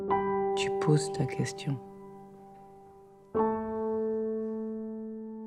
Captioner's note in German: Gespräch im Film